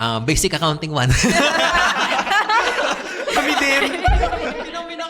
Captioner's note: laughs